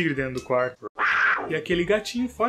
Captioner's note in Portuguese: rugido